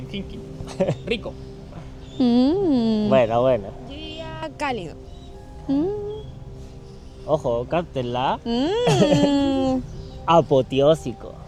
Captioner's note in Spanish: risas